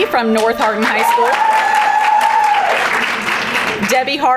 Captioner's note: crowd applauding